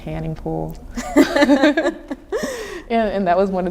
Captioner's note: laughing